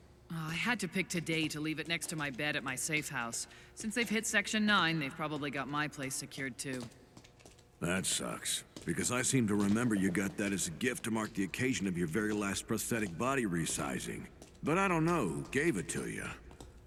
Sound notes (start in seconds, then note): none